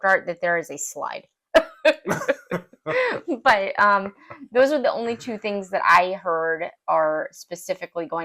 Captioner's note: laugh